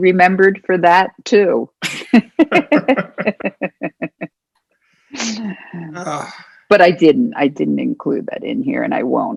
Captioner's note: laughter